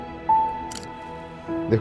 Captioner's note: camera click